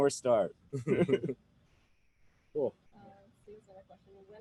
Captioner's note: laughs